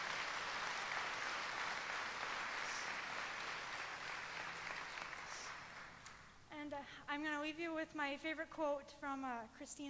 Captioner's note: applause